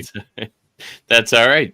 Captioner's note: laughs